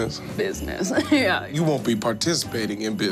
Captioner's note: chuckles